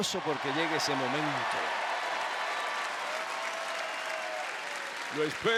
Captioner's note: applause